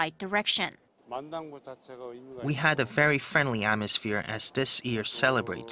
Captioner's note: Korean